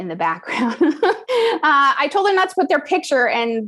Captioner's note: laugh